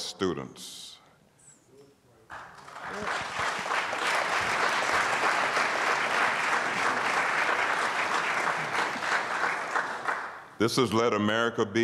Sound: applause

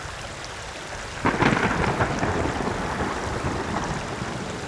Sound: water babbling; thunder rumbling

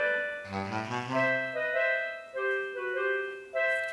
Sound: bloop

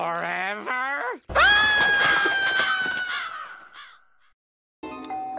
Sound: screams; doorbell rings

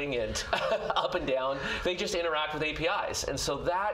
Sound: chuckles

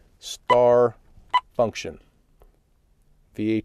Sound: beeps

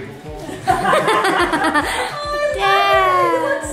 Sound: everyone laughs

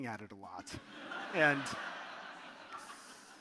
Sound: audience laughing

